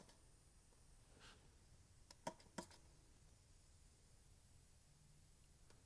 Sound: click

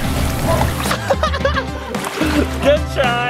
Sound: laughs

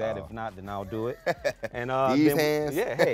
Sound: laughing

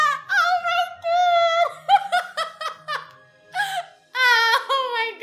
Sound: both laugh

